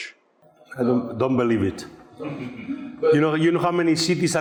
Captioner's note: people chuckling